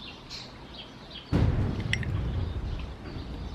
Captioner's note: lightning sounds